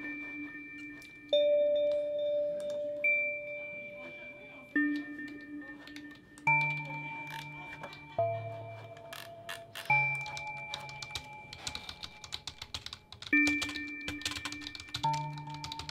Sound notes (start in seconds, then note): 8.7 keyboard typing